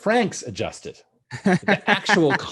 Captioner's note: laughing